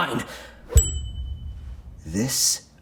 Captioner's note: bell dinging